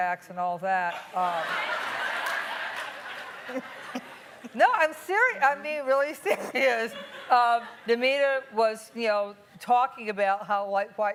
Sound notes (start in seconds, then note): 1.0 laughing